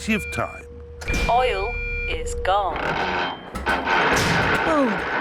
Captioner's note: creaking